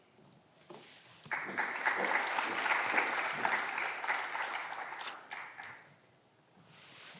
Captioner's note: footsteps approaching; clapping continues